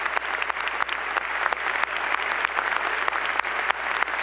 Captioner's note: applause